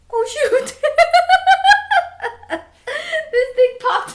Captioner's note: laughing